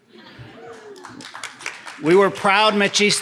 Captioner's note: audience applauding